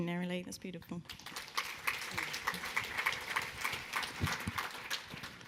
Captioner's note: audience clapping